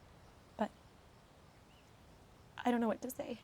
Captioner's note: voice breaks